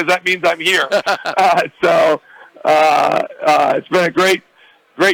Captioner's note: laughs